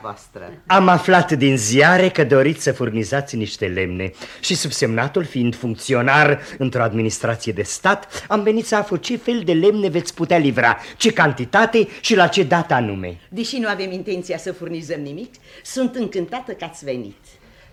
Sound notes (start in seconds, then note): none